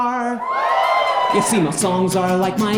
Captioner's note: audience cheers